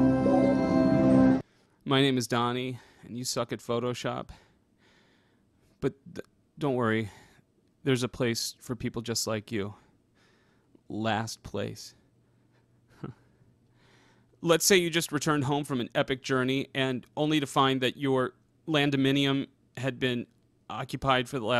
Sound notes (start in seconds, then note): 12.9 small laugh